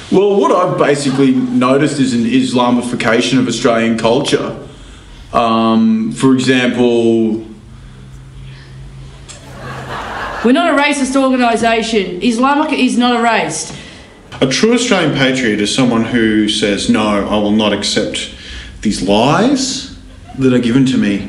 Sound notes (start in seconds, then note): 7.7 laughter